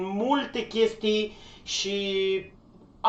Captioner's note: inhales